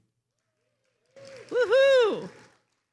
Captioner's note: attendees cheering